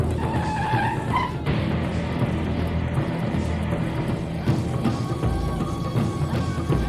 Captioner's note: tires screeching; dramatic music